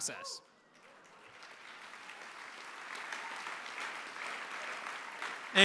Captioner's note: applause